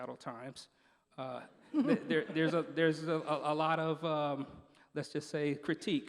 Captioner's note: laughing